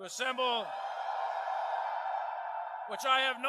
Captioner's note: crowd